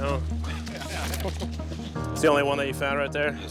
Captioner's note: laughing